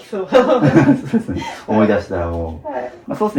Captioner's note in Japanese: 笑い